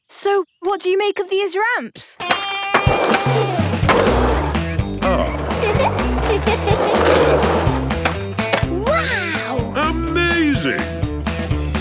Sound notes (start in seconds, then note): 2.2 rock music; 5.0 giggles